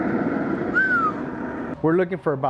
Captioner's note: whistles